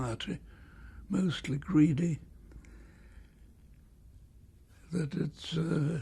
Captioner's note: pauses for 3 seconds